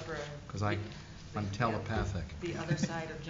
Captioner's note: laughs